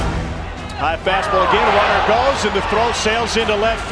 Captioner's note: voiceover